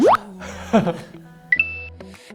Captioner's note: haha